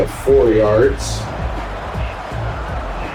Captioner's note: crowd Noises